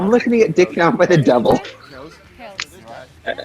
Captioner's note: laughs